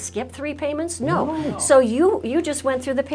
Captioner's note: in Unison